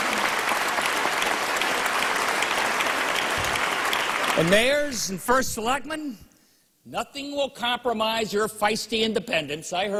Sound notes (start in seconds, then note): 4.1 applause